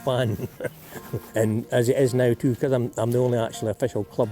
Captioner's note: chuckles